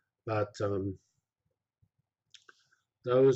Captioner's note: pause